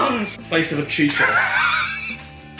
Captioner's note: giggles